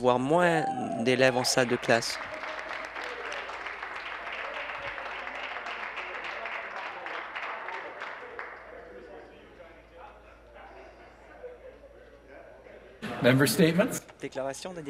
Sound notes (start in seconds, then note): 3.8 cheering and Applause